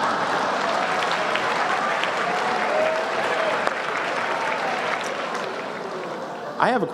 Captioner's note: laughter, applause